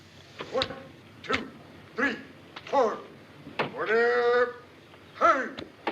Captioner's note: OFFlCER SHOUTlNG ORDERS